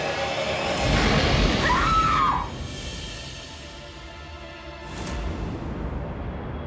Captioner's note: snarling; she screams